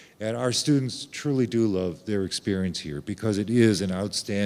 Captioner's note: none